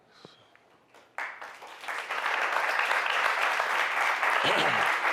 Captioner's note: applause